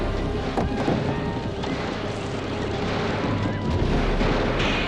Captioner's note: torch clatters